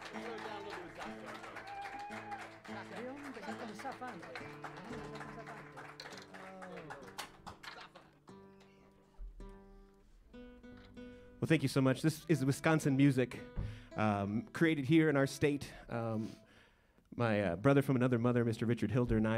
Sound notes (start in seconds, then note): 2.3 cheers and applause; 2.3 saludos y aplausos